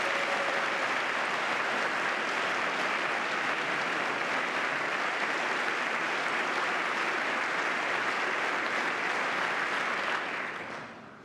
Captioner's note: applause